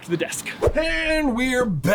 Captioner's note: whooshing